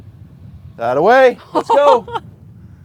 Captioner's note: laughs